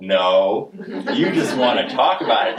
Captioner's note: audience laughing